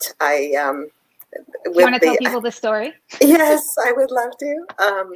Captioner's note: laughs